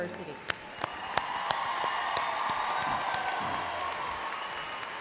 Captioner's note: applause